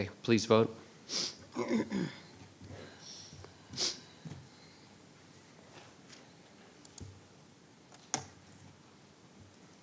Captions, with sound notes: 'Kay, please vote. (clearing throat)